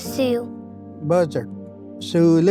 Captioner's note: repeats in Cherokee